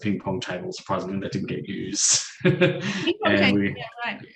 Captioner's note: chuckles